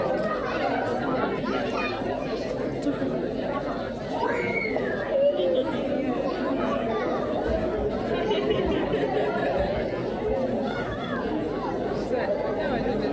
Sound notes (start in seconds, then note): 0.0 crowd chattering; 5.1 crowd laughing